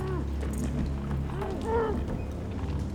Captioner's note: muffled yelling